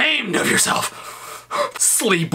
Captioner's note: exhales